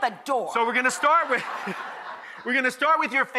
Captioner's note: laughs